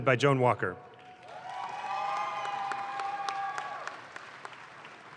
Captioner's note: audience claps